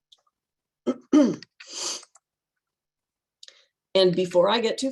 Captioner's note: clears throat